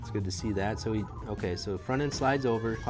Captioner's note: none